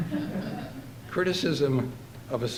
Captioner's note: audience laughing